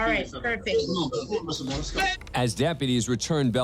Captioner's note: indistinct chatter